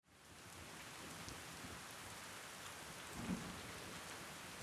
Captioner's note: rain pattering